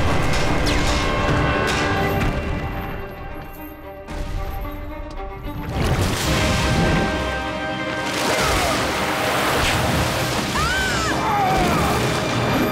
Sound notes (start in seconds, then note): 7.8 grunting; 10.4 screaming